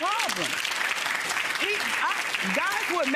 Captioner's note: audience applause